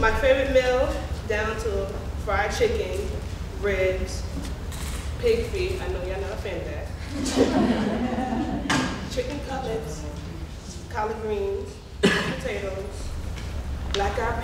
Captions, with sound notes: My favorite meal down to fried chicken, ribs, pig feet, I know y'all not a fan of that. (audience laughing) Chicken cutlets, collard greens, potatoes, black eyed peas,